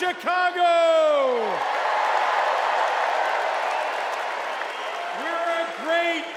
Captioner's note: cheers and applause